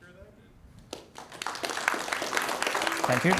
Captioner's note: applause